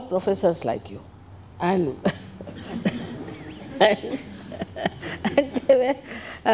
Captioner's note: laughs